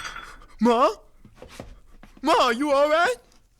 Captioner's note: objects clatter